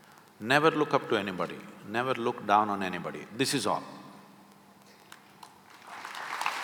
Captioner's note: applause